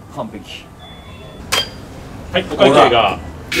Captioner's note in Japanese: レジの音